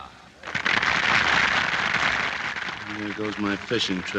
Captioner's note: applause